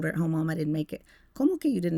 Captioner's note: speaking Spanish